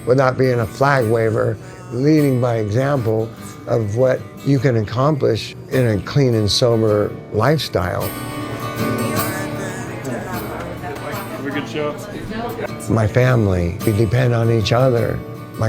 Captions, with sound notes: without being a flag waiver, leading by example of what you can accomplish in a clean and sober lifestyle. (gentle guitar music) (people chattering) - Have a good show. - My family, we depend on each other.